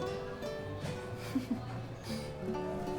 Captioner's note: laughs